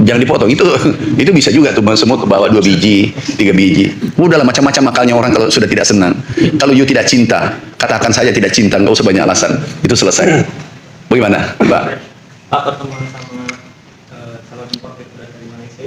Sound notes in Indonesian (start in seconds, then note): 10.2 berdehem